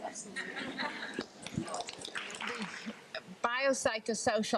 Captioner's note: group laughs and applauds